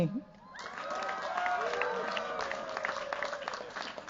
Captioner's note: cheers, applause